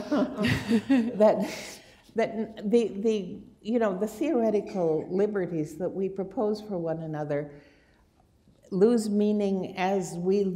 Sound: laughter

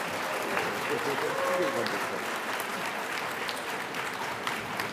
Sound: audience applauding

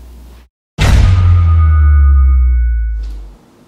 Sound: dramatic Boom

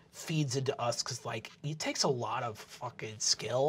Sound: none

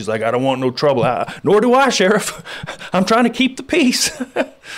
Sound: laughs

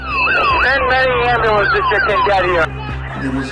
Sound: radio

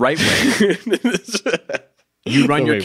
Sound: laughs

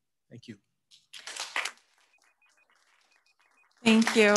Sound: audience applauding

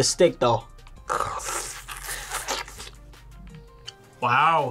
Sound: slurps

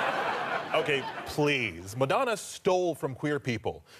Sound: audience laughter

